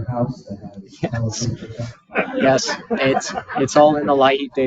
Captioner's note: participants laughing